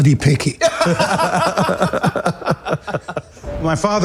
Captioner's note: laughter